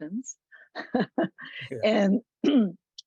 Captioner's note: laughs